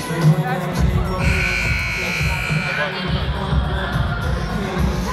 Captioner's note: buzzer blaring; upbeat music